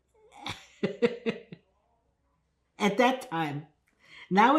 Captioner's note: laughing